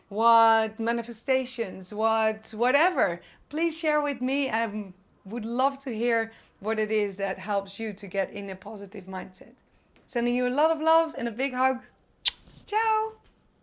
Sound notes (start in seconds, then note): 12.2 kiss smacks